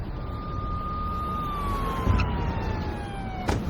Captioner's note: siren blaring